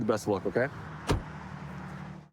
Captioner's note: door bangs